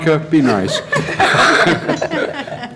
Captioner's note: laughter